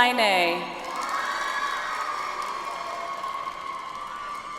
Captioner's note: audience applauds